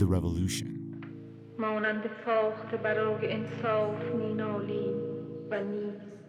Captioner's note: soundbite of film, "the house is black"; reading in non-English language